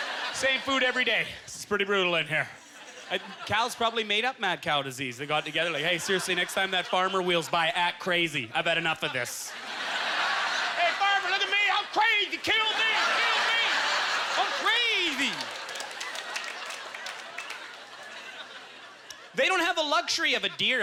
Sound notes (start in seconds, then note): 9.5 audience laughter; 12.4 audience laughter; 14.6 scattered applause